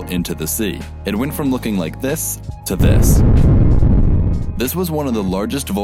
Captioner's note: kaboom